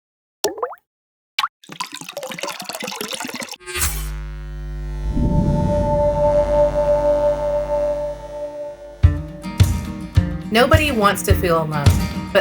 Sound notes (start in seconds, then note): 0.4 droplet plops; 1.4 droplet gurgles; 1.6 water gurgling; 3.6 electricity buzzing; 5.2 simple bright music; 9.1 upbeat music